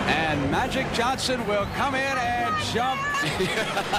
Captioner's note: laughter